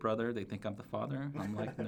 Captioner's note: laughs